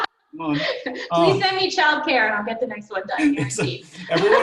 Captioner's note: laughs